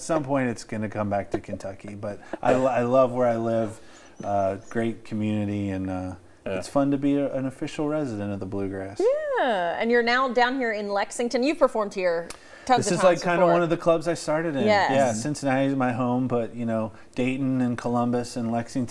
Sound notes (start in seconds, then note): 7.0 laughter